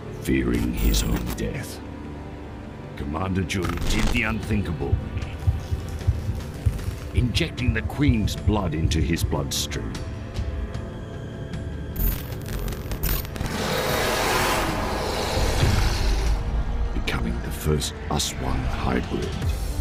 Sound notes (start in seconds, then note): 12.0 static buzzing; 13.4 growling